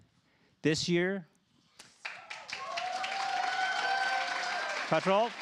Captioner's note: applause